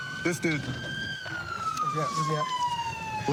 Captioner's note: siren wailing